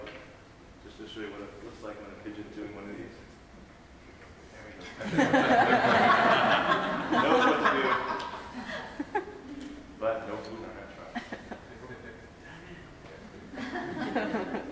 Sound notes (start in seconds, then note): 5.0 laughing